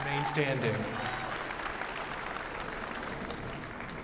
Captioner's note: applause